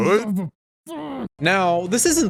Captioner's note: groans